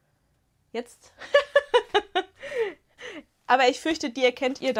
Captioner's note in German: Gelächter